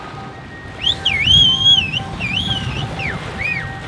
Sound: whistling

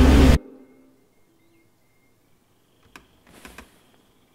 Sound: suspenseful music intensifying; silence; birdsong

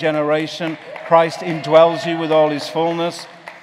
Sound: congregation clapping

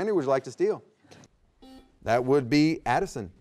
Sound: buzzer beeping

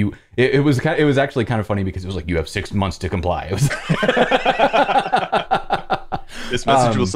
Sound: laughter

